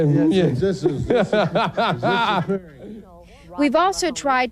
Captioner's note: presenter laughs